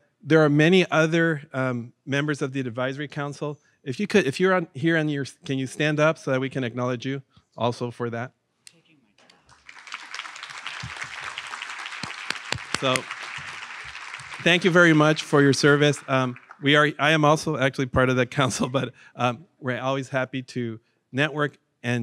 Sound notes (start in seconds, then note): 9.3 audience applauds